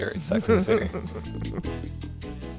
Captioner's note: laughter